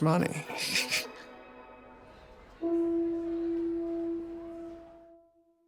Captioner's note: chuckles